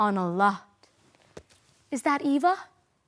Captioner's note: slap; silent